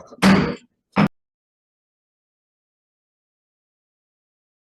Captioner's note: slamming gavel